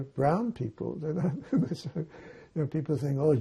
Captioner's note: laughing